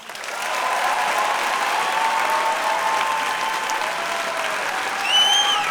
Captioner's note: audience cheering and applause